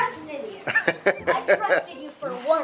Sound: laughing

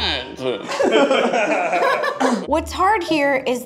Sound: laughing

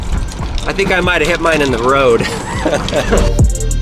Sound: laughs; house music

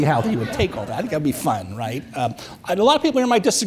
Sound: audience chuckles

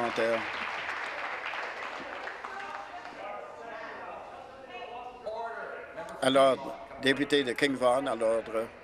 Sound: applause

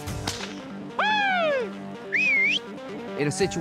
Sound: yelling; whistling

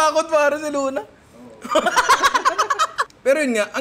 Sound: laughs

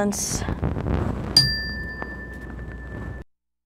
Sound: dinging

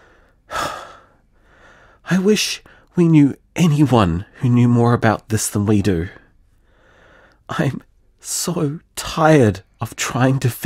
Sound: sigh

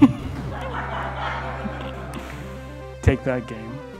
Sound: audience laughing

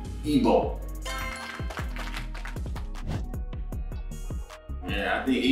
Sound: applause sound effect plays

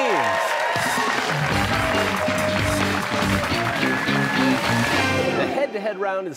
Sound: cheers and applause

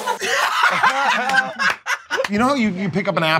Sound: laughter

